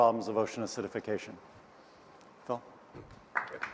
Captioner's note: applause